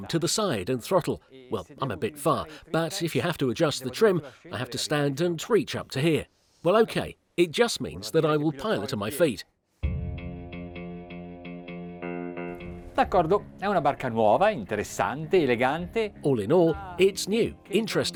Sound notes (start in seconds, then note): 9.8 relaxing music; 13.3 speaking in foreign language